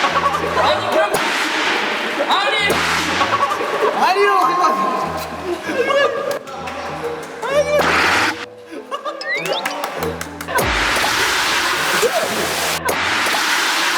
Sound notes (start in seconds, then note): 9.5 Tepuk tangan